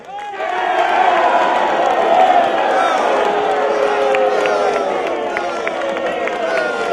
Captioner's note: crowd cheering and booing